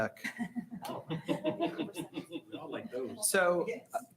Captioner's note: people laughing